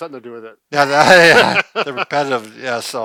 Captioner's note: laughter